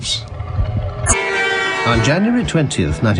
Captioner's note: car horn blares